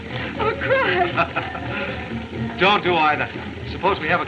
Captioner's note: laughs